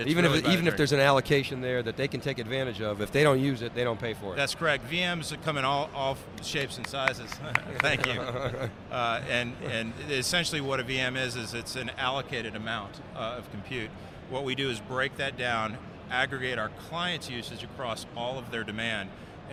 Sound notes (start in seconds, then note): 6.5 applause